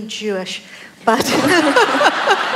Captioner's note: laughter